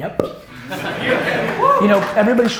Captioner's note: audience laughter and cheers